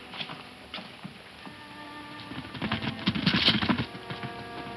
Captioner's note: hooves thumping